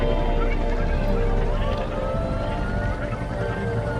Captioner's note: fading helicopter sounds mixed with confusing voices